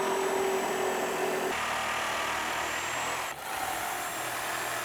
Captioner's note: saw humming